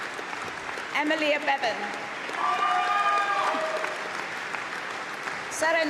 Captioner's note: applause